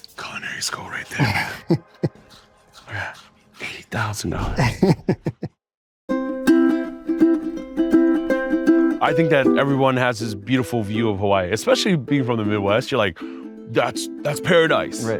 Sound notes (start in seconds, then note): 4.4 laughs; 6.1 gentle ukulele music